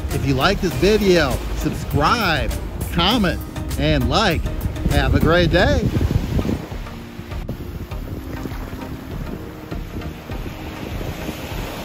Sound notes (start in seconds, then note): 6.2 upbeat music; 6.2 waves rushing